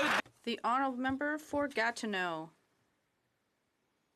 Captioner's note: some Applause